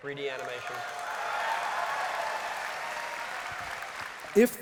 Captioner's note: cheering and applause